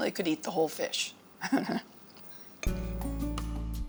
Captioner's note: chuckles